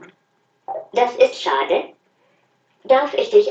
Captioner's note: robot talking; human talking; robot talking